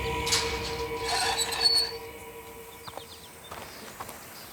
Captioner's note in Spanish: Rechinido al abrir la reja